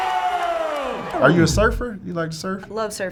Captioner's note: record scratching